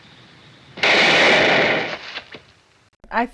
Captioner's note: gunshot fires